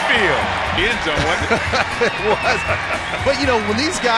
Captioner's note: laughs